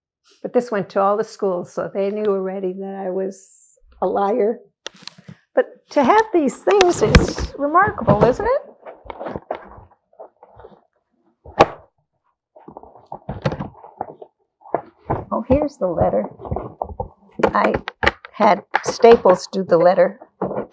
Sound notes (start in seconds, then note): 8.9 pauses 6 seconds